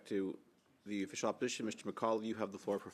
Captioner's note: speaking French